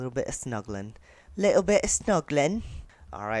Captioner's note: bad English accent